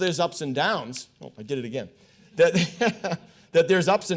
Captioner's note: laughs